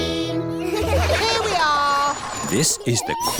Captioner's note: all giggle